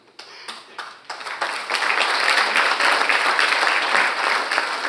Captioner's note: audience applauding